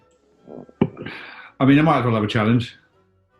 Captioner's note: sighs